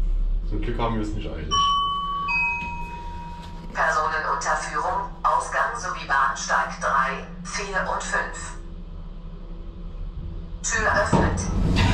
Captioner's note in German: Aufzug-Ansage